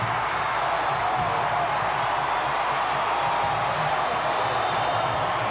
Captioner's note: crowd cheering